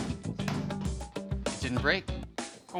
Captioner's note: none